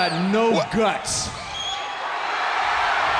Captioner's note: crowd cheering